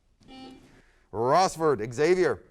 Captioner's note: buzzer sounds